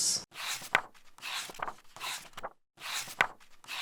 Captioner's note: pages turning